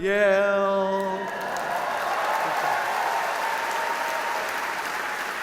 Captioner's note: audience applauding